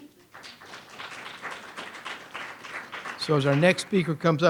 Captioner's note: audience applauds